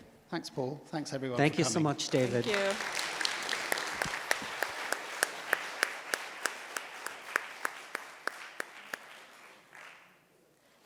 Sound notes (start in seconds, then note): 1.9 audience applauds